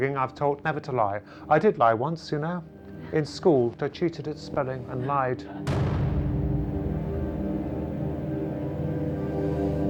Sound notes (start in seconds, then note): 5.7 object thuds